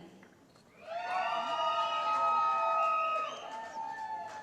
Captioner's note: cheering